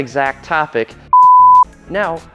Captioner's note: tone beeps